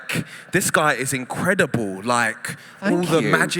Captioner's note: laughter